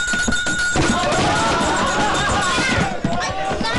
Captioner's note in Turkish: gürültüyle koşarlar